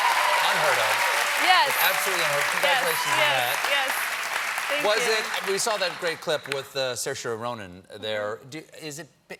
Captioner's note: applause